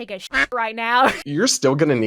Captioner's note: duck quacks; laughs